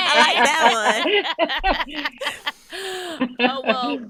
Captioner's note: laughing